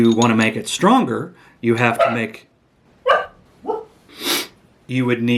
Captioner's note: annoying dod barks in the background